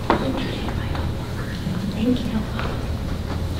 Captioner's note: whispering